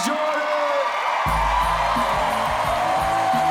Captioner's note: cheers and applause